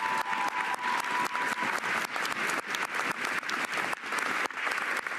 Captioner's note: cheers and applause